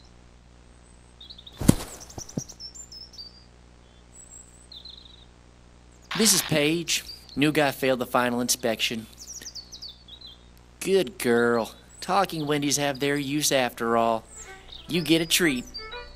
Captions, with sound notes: [body hits ground] This is Paige. New guy failed the final inspection. Good girl. Talking Wendys have their use after all. You get a treat.